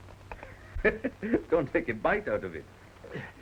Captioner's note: chuckles